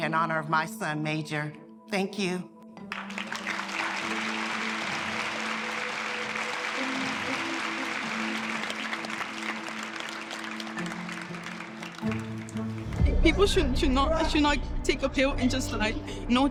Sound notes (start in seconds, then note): 3.5 audience applauding